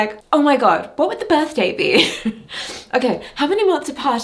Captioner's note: giggles